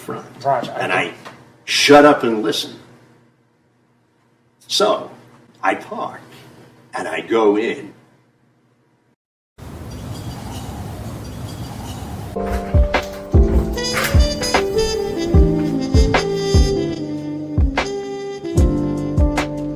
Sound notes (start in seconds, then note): 9.6 wind blowing; 12.2 slow tempo jazz music